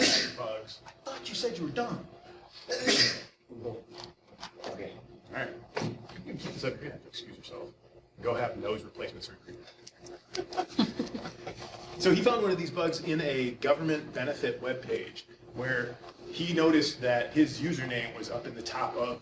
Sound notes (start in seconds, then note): 2.6 student sneezing; 10.1 scattered laughing